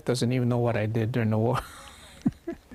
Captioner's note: laughs